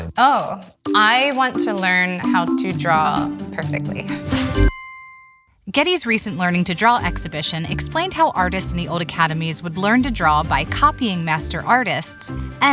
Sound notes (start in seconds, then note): 4.5 text chimes